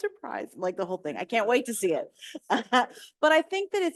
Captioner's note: chuckles